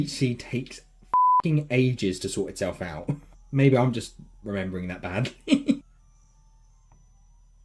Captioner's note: cam chuckle